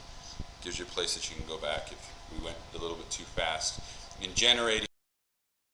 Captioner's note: mic cuts out